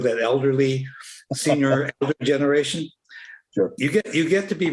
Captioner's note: laughter